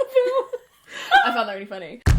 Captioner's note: laughs